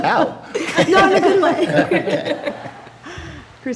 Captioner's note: laughing